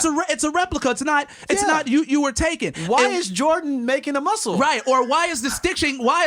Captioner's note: laughter